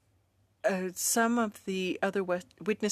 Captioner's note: speaking French